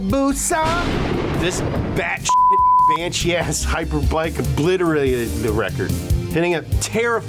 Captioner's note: beep